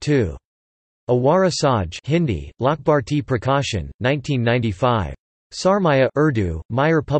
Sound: Hindi

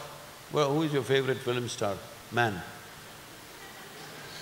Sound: few laugh

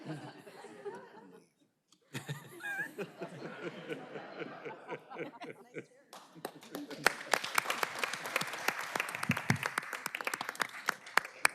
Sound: laughter

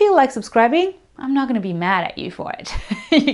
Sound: laughs

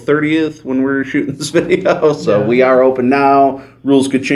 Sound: laughs

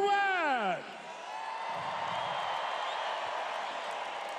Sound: crowed cheering

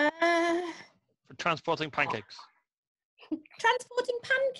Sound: laughs

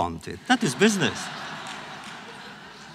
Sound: laughter

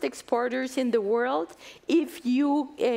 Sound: none

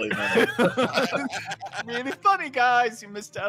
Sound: all laugh

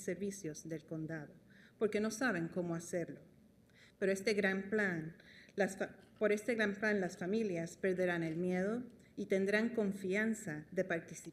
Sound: speaking spanish

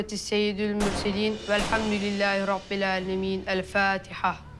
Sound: gunshots coming from outside

